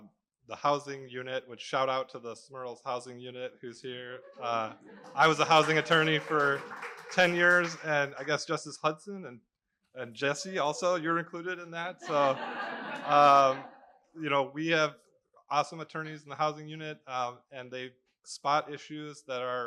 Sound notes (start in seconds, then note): 12.0 laughter